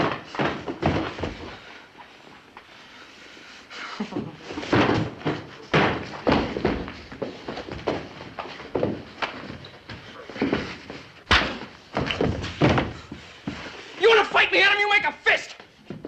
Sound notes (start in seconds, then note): 3.7 chuckles